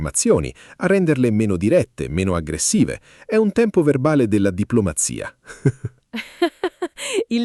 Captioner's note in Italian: risate